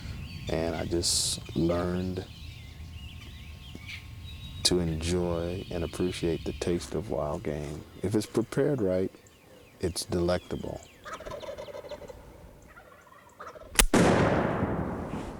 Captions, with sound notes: And I just learned to enjoy and appreciate the taste of wild game. If it's prepared right, it's delectable. [ Turkey Gobbles ] [ Gunshot ]